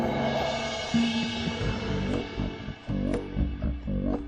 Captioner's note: growling; rhythmic music